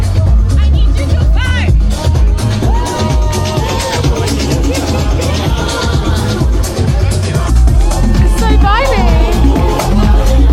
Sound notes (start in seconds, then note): 1.4 people bellow; 2.4 music blasts